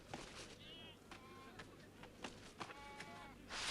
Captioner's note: goats bleating